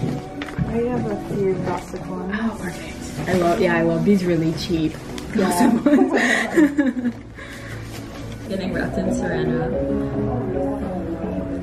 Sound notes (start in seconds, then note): 5.6 both giggle